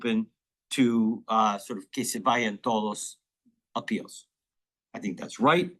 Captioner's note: speaking in foreign language